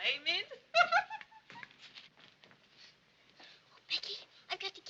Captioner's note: laughing